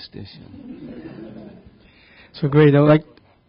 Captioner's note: audience laughing